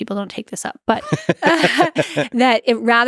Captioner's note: Lex and Jennifer laugh